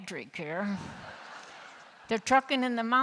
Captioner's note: laughter